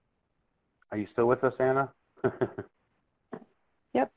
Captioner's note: laughs